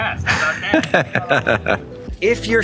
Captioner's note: laughs